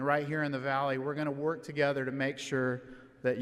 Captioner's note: none